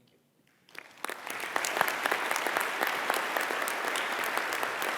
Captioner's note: applause